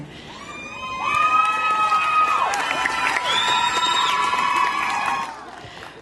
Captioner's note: applause